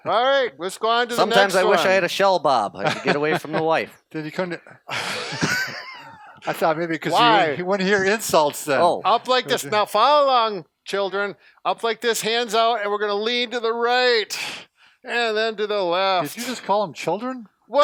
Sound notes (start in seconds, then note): 4.6 laughter